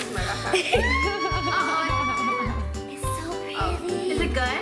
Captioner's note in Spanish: chillidos